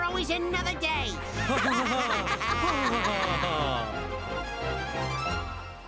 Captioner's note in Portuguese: todos rindo